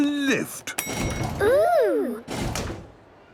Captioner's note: lift pings